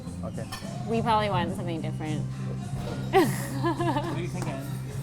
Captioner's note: laughing